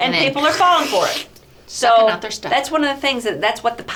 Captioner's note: makes sucking sound